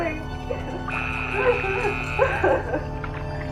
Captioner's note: horn blaring